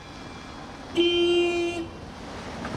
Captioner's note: blares horn